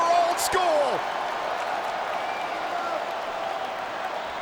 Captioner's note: crowd cheering